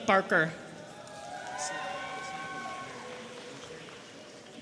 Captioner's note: audience cheering